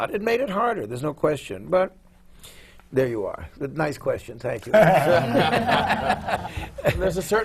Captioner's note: laughter